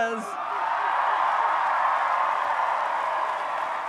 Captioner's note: audience cheers